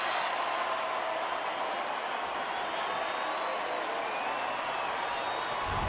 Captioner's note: cheering